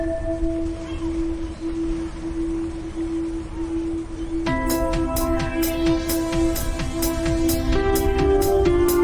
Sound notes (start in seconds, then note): 0.6 sound of bell; 5.0 refreshing music